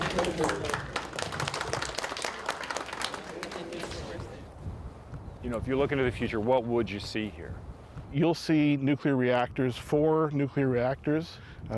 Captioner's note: applause